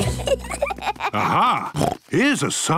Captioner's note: children giggling; snorts